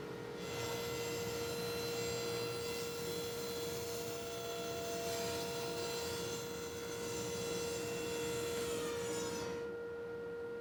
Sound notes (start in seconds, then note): 0.7 saw buzzing